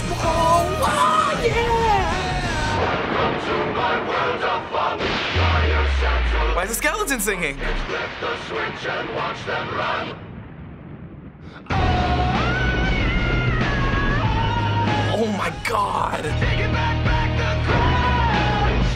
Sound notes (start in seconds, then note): 2.7 thunderclap; 10.4 thunder rumbles quietly